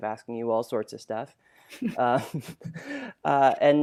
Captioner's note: laughs